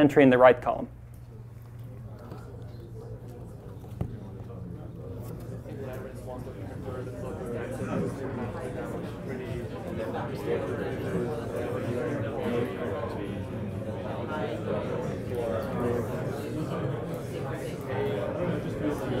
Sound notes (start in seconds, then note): 2.4 crowd talking